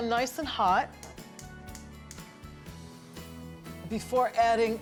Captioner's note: clicking